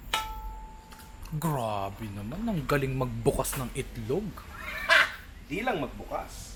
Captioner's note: laughs